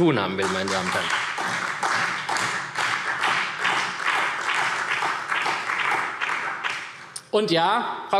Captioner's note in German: Beifall SPD